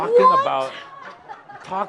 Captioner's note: laughter